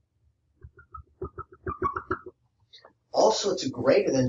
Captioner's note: marker squeaks